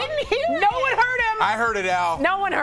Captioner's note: laughter